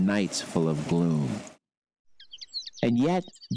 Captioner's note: bird chirping